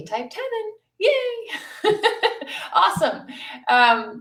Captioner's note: laughs